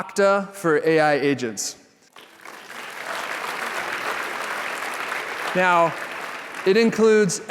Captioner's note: applause